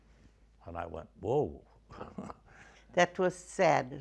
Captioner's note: laughs